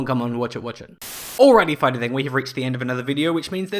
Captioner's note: Static